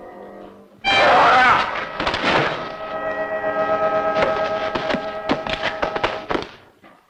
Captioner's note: tense music; Andy screams